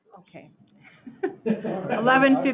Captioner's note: laughing